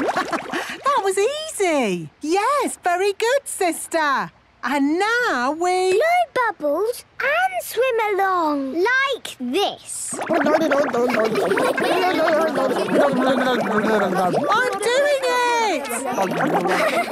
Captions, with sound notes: Haha! That was easy! - Yes, very good, sister. And now we... - Blow bubbles and swim along! - Like this! (children laughing) - I'm doing it!